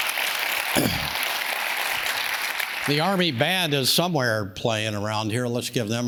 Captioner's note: audience claps; clears throat